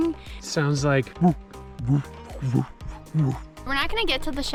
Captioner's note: imatates Elk groaning